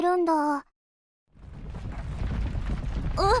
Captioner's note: rumble